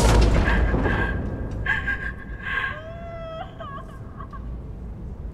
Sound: mother and child crying

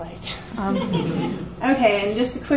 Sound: audience laughs

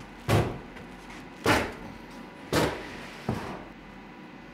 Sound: banging

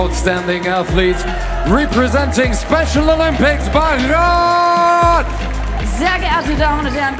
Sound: team cheering

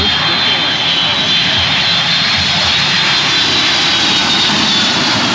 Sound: plane engine roars

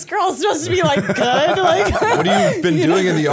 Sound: laughter

